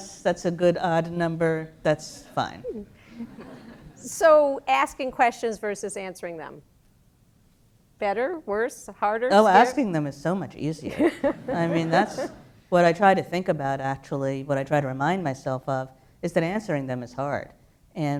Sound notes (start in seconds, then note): 3.1 laughter; 10.8 laughter